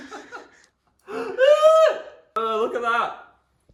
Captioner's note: laughing